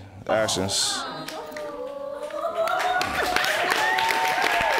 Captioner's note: applause